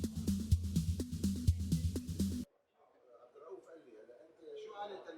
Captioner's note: almost silent train ride